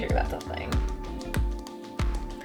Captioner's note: popping sound